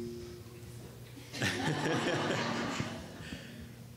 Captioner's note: laughing